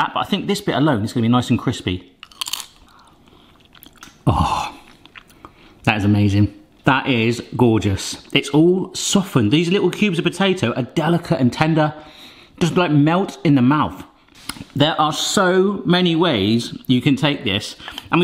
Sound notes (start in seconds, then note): 2.2 food crunches loudly